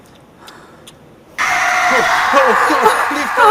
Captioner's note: john screams